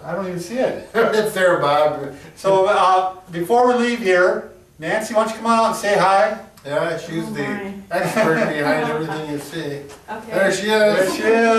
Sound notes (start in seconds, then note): 7.9 laughs